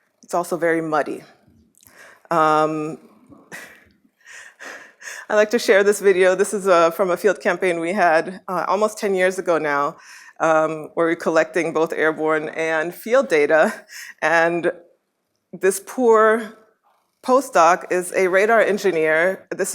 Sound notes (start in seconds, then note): 3.1 laughs